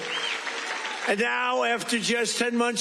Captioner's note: cheers